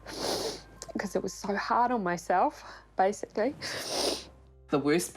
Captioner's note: sniffles; sniffles